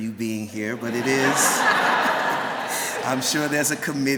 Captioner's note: laughter